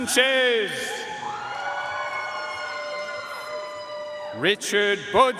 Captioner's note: audience cheering and applauding